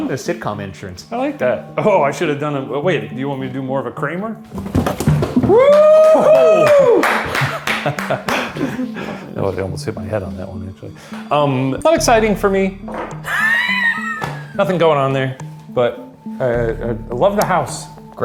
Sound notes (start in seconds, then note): 5.6 clapping; 13.3 laughing